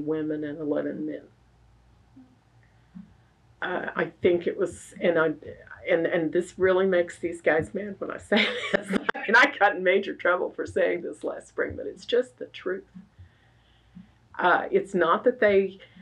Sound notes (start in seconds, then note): 8.4 laughs